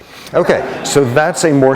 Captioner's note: laughter